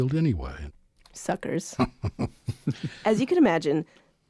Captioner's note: laughs